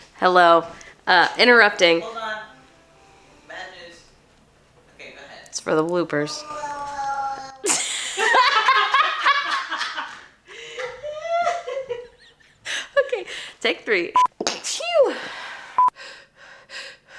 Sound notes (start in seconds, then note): 6.3 baby Babbling loudly; 11.4 laughter